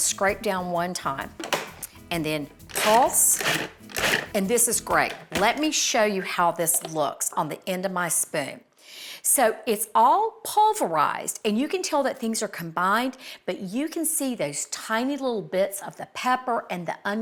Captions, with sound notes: Take the lid off and scrape down one time, and then pulse, [blender rumbles] and this is great. Let me show you how this looks on the end of my spoon. So it's all pulverized and you can tell that things are combined, but you can see those tiny little bits of the pepper